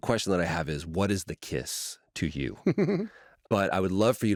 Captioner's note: laughter